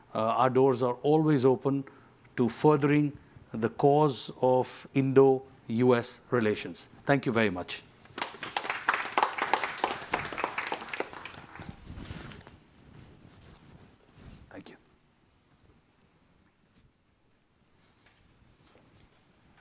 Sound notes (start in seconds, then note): 8.1 clapping